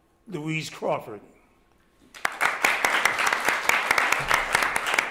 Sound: applause

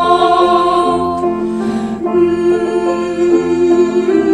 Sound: humming

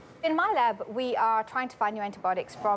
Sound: none

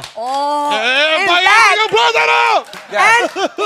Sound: yelling; spanish

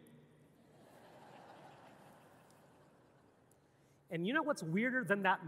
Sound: audience laughing

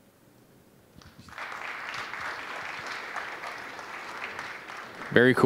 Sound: applause

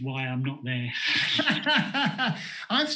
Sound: laughter

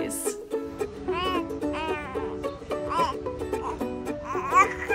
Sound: lighthearted music; giggles

